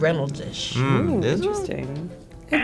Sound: graphic popping

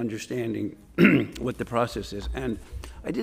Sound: clears throat

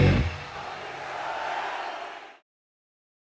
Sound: crowd cheers

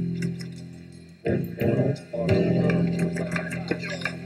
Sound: laughing

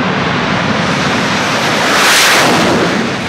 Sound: whoooooshh! sound

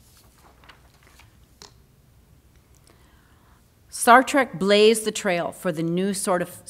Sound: shuffles pages

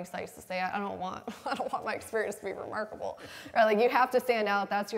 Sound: laughs

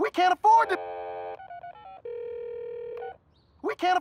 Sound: line ringing

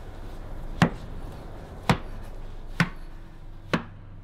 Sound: footsteps Fade Away

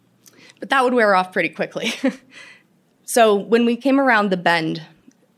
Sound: laughter

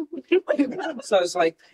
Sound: laughter

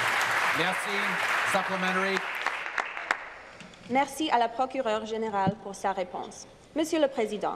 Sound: some Applause

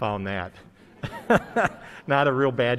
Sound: laughter

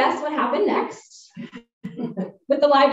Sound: laughter

